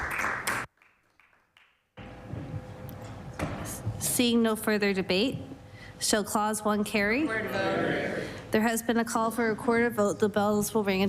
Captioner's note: some Applause